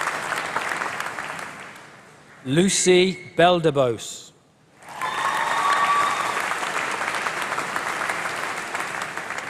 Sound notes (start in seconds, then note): 4.8 applause